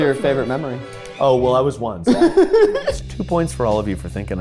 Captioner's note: laughing